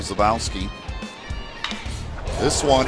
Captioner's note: ball hitting bat